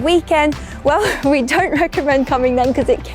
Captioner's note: laughs